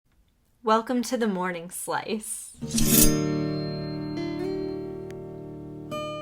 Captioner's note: slice sound effect; guitar